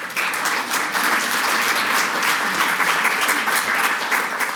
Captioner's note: audience clapping